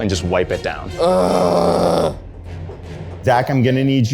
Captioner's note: grunts